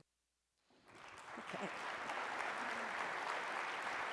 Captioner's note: applause